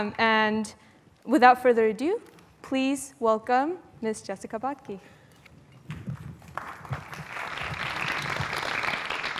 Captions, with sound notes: And without further ado, please welcome Ms. Jessica Batke. [APPLAUSE]